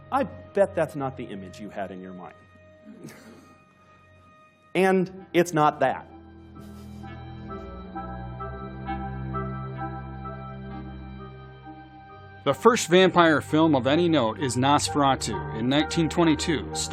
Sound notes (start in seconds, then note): 2.9 laughs